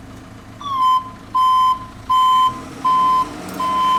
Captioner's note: truck beeping